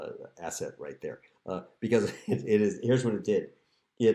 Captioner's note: laughter